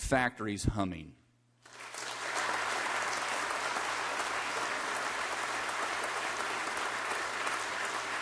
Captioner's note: applause